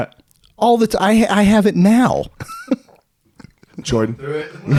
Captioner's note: laughing